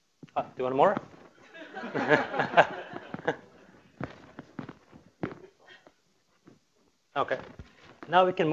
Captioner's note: laughter